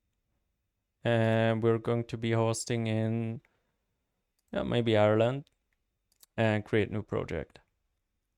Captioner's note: click